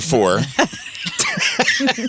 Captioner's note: laughing